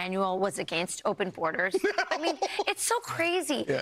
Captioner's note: laughter